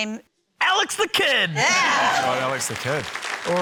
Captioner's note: cheering, applause